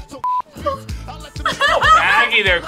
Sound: beep; laughs

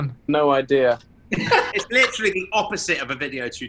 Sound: laughing

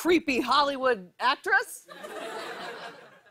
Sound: laughter

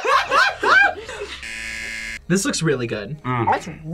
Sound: all laugh; buzzer

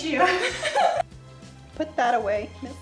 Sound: chuckling

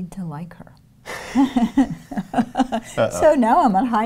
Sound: laughs

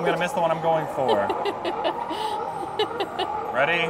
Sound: laughs

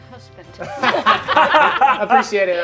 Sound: players laughing

